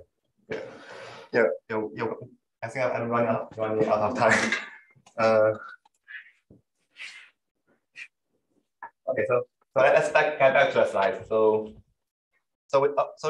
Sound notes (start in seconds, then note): 4.5 laughs